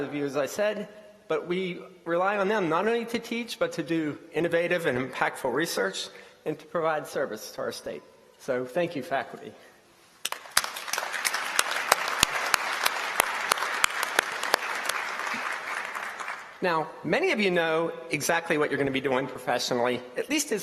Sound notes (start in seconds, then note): 10.2 applause